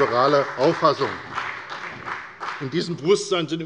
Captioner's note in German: Beifall bei der FDP und bei Abgeordneten der CDU